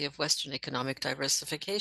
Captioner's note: speaking French